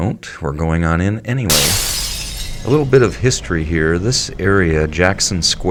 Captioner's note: sound of glass breaking